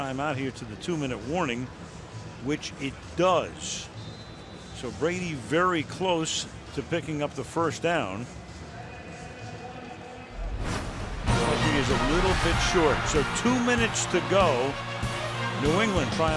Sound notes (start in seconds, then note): 9.2 pa announcement